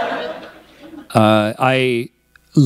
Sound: laughter

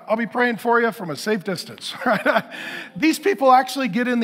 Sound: chuckles

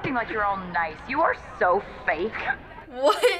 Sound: sobbing

